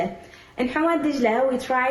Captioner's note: faintly speaking